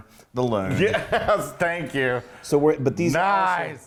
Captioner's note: laugh